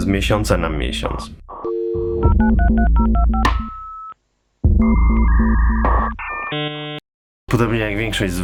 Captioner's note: dial-up modem sounds